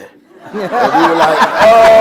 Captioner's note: laughter